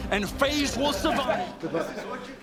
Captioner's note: victorious laughter